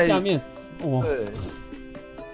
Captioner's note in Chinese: 笑～